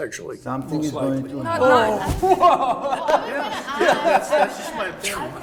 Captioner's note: group clamors